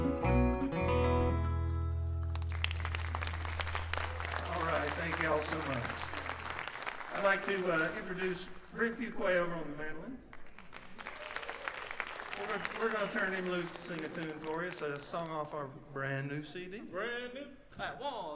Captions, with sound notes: (audience clapping) All right, thank you all so much. I'd like to introduce Brent Fuqua over on the mandolin. We're gonna turn him loose to sing a tune for us. A song off our brand new CD. - Brand new!